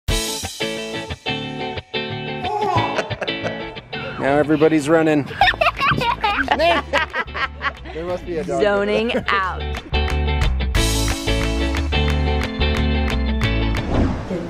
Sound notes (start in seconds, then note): 0.1 lighthearted guitar music; 7.9 laughs; 9.9 lighthearted guitar music